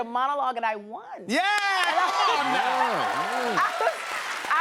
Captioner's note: cheers and applause